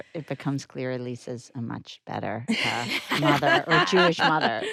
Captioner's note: laughs